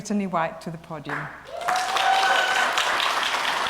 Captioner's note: applause